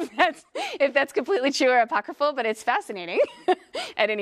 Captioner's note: laugh